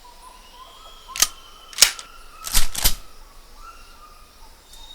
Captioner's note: gun clicking